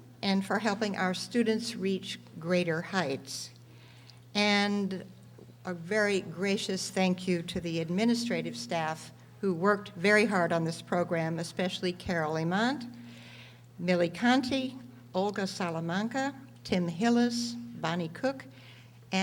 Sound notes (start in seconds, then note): none